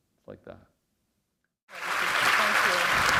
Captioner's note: applause